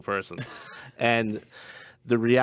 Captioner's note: light laughter